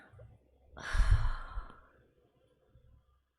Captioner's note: sighs